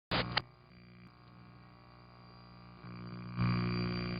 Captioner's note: static buzzes